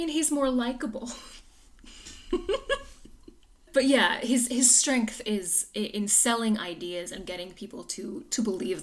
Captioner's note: laughs